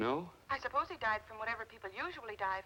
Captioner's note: on phone